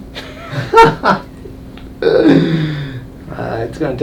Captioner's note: chiropractor laughing